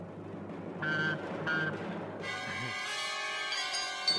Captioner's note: beep beep